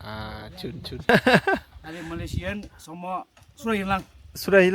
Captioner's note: laugh